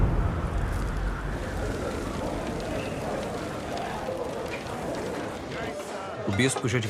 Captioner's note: indistinct chatter